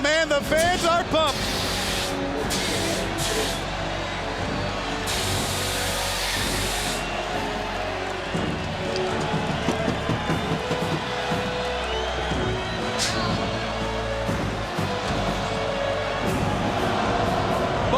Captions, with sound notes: Man, the fans are pumped. (crowd cheering continues) (crowd cheering continues)